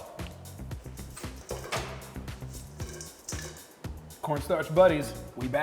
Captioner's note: chicken clattering in aluminum bowl